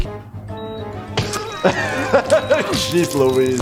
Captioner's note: laughs